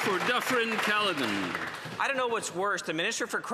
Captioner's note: some Applause